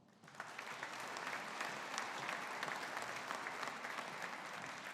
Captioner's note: audience applauding